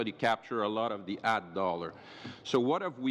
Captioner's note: speaking French